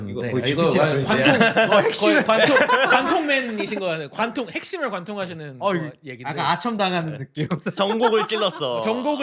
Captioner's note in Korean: 웃음